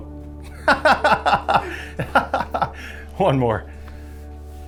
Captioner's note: laughs